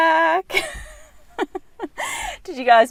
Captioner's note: laughing